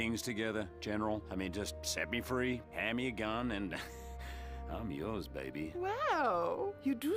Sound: chuckles

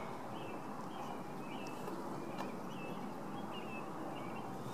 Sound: birds chirping

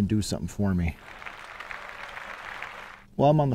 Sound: applause

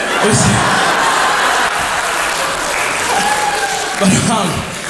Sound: crowd laughs

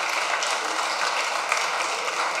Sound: applause

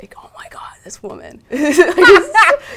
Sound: laugh

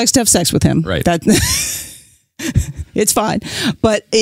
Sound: chuckles

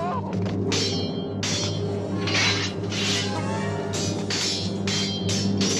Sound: yelling; clinking; hitting

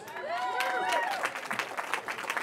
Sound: cheering

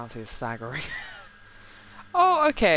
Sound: laughs

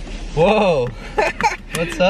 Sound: chuckles

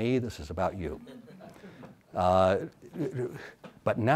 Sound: audience laughs

